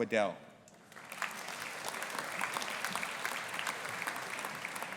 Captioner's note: audience applauding